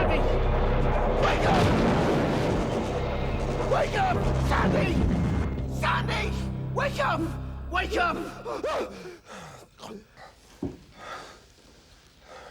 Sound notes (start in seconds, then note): 0.0 explosion booms; 9.0 Sandy gasps